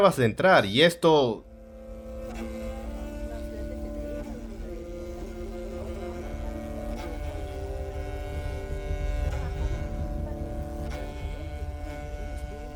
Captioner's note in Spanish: hablando tuvano